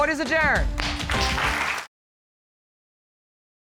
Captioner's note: audience applauding